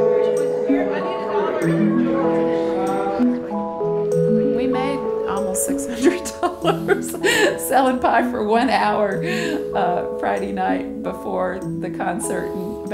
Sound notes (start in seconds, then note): 5.9 laughing